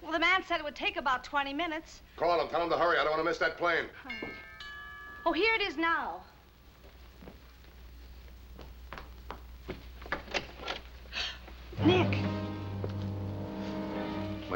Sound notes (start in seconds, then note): 4.0 doorbell ringing; 11.1 gasps; 11.8 tense music